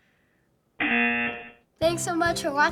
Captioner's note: buzzer